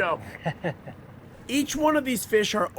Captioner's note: laughter